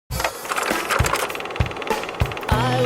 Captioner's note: mechanical whirring